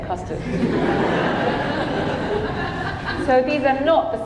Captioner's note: audience laughing